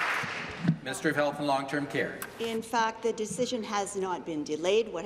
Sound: applause

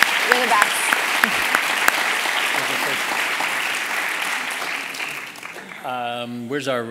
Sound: applause

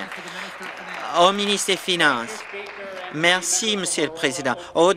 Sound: applause

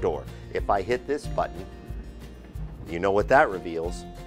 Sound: door whishing

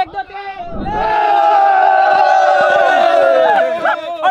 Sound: cheering

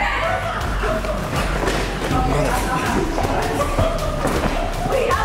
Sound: coworkers laughing, shouting

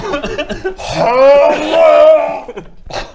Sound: hhhrrrggghhhllglghghhragh

